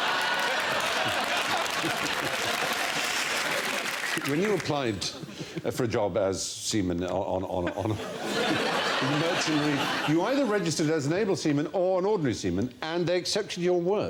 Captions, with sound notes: *Laughter and Applause* When you applied for a job as Seaman on, on on a *laughs* You either registered as an Able Seaman or an Ordinary Seaman and they accepted your word